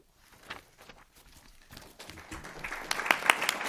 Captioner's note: applause